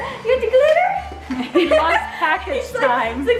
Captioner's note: laughing